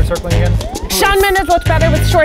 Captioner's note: sirens blaring